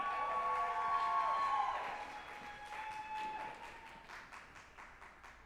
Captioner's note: group applauding and cheering